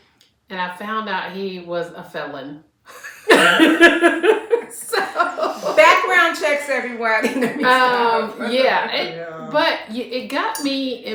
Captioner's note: laughter